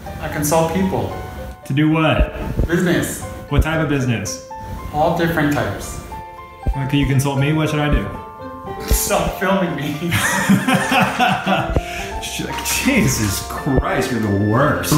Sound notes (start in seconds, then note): 10.0 Eugene laughing; 10.0 laughing